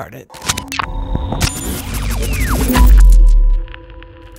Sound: electronic whooshing

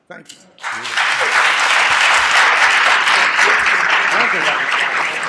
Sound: applause

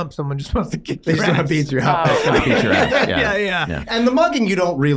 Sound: men chattering

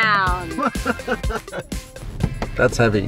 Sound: laughing

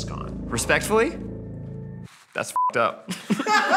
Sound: beeps; group laughs

